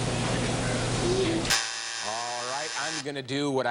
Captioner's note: buzzer sounds